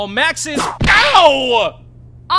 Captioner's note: whip crack!